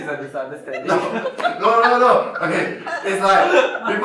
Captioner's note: laughs; laughter